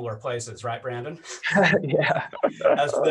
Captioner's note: laughter